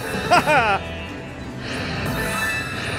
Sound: laughing; electronic music

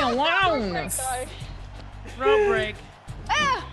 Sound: laugh

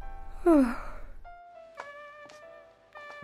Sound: JENNY yawns

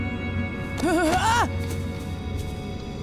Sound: shrieking

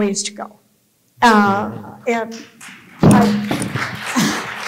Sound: applause

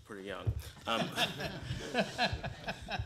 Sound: laughter

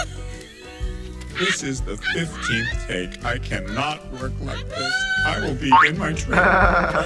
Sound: laughs

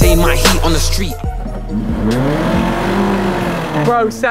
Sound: engine roaring

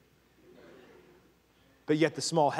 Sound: congregation laughing

